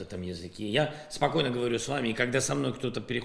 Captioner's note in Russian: по-русски